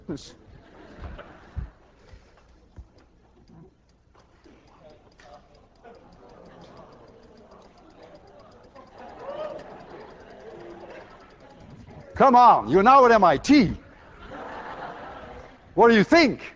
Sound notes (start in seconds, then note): 0.1 class laughing; 4.1 class murmuring; 13.9 class laughs